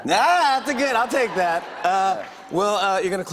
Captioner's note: audience cheers